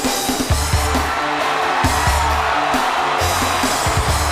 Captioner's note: crowd cheering